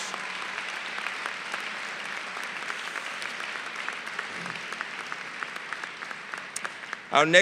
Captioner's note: applause